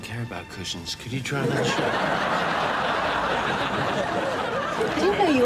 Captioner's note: audience laughs